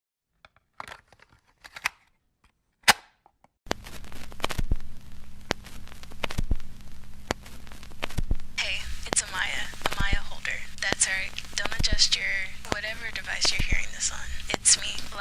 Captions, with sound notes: *cassette tape* *static* Hey. It's Amiya. Amiya Holder. That's right. Don't adjust your whatever device you're hearing this on. It's me.